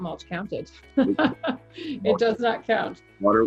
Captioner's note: laughs